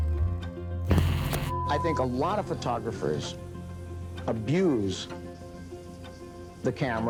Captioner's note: static pops